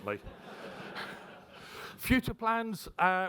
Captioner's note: audience laughs